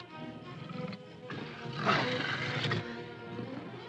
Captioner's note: panther growls